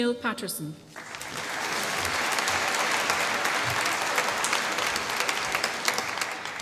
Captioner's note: applause